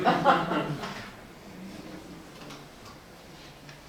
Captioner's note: crowd laughs